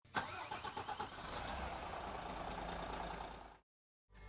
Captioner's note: engine starting